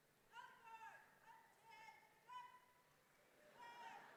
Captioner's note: yelling